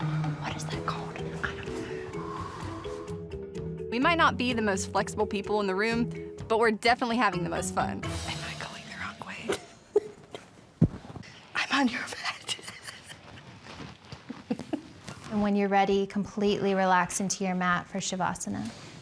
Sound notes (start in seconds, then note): 14.4 both laughing